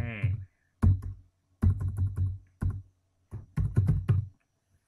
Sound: typing

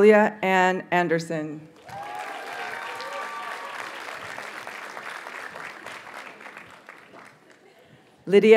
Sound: audience cheers and applauds

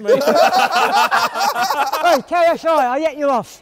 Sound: laughter

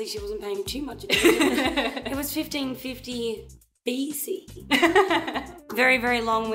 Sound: laughs; laighs

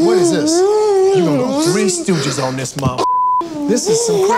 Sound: beeps

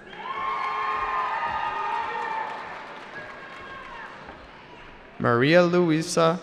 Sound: cheering

